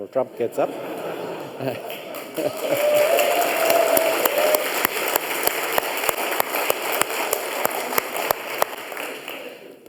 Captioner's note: audience chuckle and applause